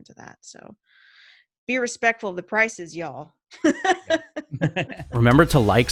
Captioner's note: laughing; chuckles